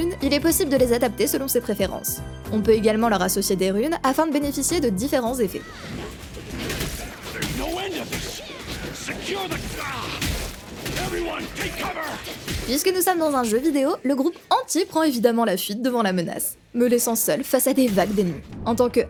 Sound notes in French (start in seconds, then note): 5.8 bruits de combat